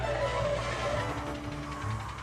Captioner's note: tyres screech